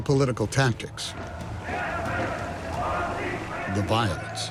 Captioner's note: spectators chanting